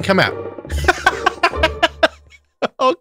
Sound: laughs

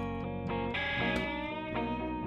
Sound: punch

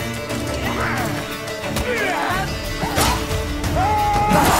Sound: grunting, groaning; battle cry

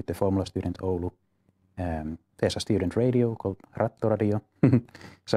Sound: smile and laughter

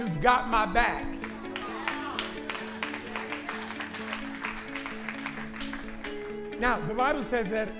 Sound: applause

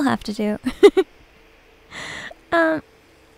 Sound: giggles

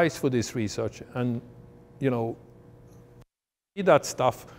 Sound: audio cuts out

